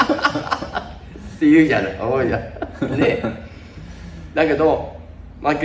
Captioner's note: laughs